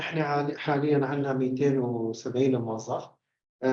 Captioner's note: speaking arabic